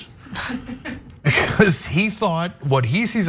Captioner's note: laugh